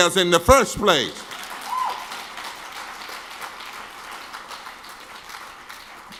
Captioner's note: audience claps and cheers